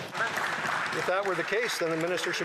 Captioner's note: some Applause